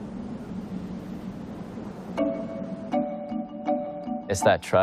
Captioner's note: air whooshing